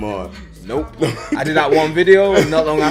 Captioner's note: laughs